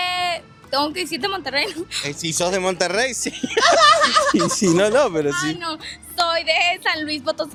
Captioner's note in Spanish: risas